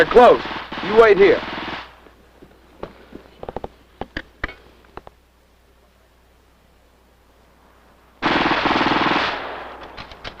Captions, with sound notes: - They're close. You wait here. [gunfire]